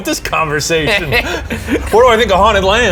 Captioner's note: both laughing